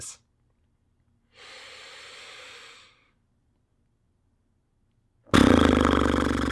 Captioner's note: inhales; exhales